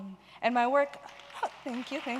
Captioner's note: applause